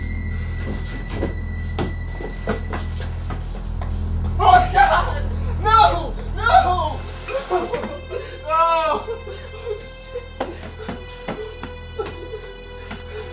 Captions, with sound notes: - Oh god, no, no! Oh! (Ricky cries) (troubled music)